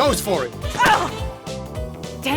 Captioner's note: tackle, gunshot